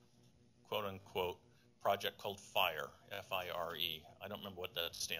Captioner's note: none